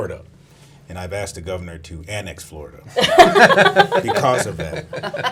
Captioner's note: laughs